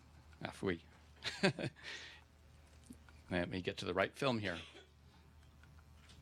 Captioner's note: laughs